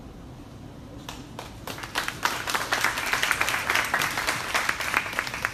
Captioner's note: crowd applauding